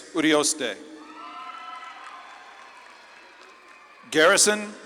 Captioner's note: audience claps and cheers